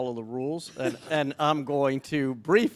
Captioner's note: chuckles